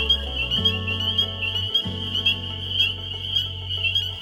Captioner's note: frogs peeping